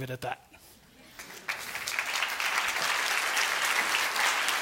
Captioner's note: audience clapping